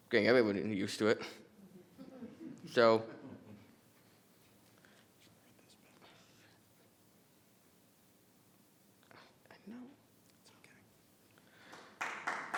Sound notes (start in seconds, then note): 1.5 people chuckling; 11.6 people clapping